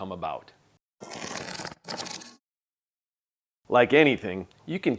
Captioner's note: scrapping sound